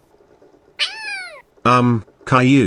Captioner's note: startled meow